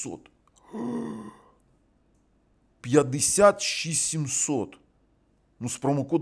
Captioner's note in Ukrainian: стогін